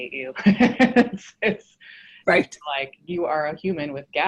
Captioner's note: laughs